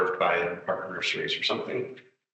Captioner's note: attendee speaking softly